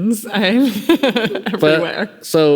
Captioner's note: laughing